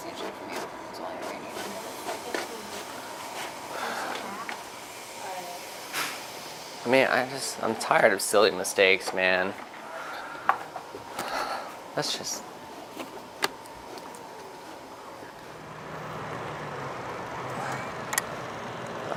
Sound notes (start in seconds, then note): 3.7 sighs; 11.2 sighs; 15.4 motor running